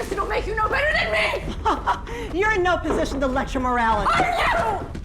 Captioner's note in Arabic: يضحك